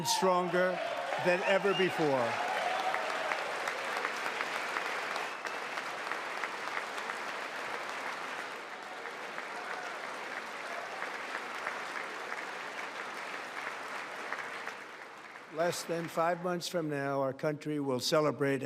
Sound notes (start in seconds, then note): 6.3 applause